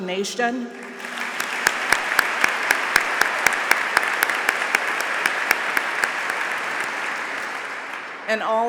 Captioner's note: applause